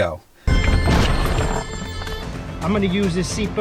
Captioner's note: car crashing